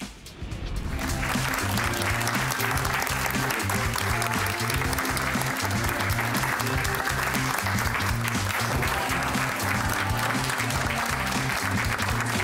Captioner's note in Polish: Aplauz